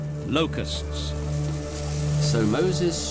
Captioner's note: locusts fluttering